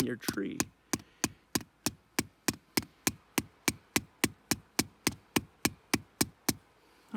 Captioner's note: tapping sounds